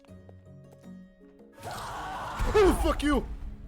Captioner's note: screaming